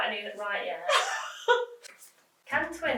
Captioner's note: laughs